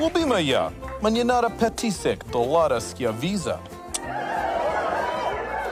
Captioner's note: speaks in Russian language